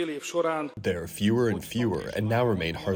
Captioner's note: through translator